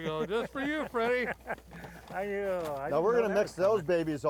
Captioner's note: laughs